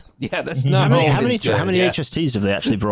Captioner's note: laughs; chuckles